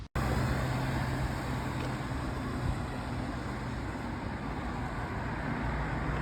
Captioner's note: loud traffic noise